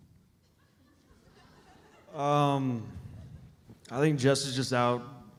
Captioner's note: audience laughs